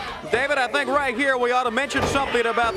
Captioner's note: crowd chatter